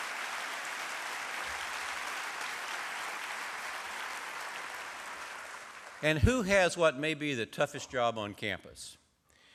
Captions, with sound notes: [ APPLAUSE ] AND WHO HAS WHAT MAY BE THE TOUGHEST JOB ON CAMPUS.